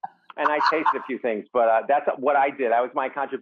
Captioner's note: Rachael laugh